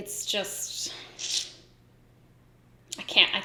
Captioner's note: sucks teeth